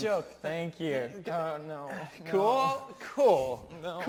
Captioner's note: repeated mumbling of 'oh no'